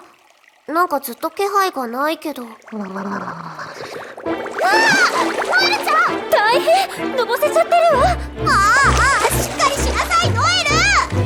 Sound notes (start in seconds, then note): 2.6 drowning Noel noises